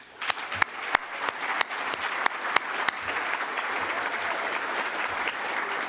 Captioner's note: applause